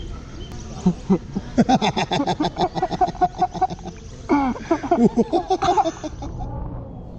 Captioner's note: laughing